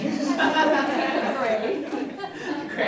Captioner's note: audience laughs